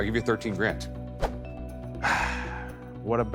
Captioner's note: sighs